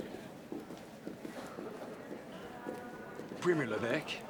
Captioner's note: background chatter